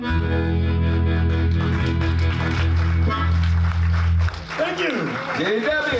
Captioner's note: audience clapping